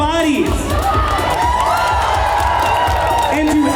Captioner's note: cheers